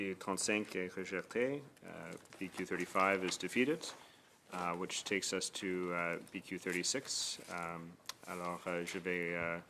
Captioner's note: speaking French